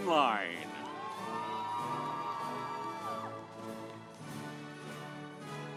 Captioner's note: audience applauds